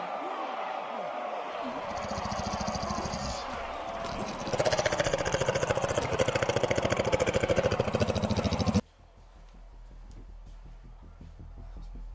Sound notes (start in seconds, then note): 0.0 crowd clamoring; 1.8 zombie growling